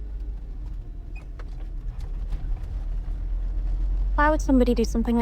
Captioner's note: car engine revving